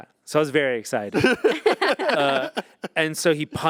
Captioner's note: group laughing